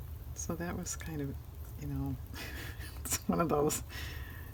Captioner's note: laughs